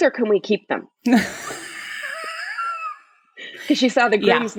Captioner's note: laughs